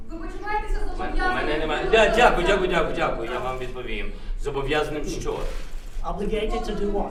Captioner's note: speaks Ukrainian; speaks Ukrainian